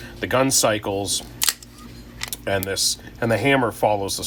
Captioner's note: gun cocks